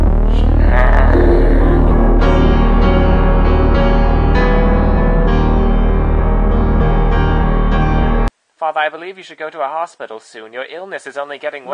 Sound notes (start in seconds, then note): 0.0 ゴゴゴゴ; 1.9 ゴゴゴゴ